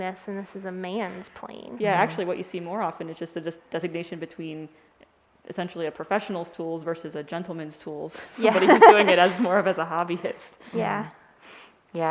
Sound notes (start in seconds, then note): 8.2 laughing